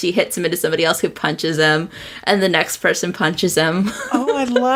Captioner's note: laughs